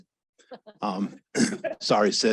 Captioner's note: laugher